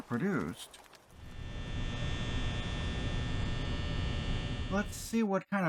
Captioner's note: lights buzzing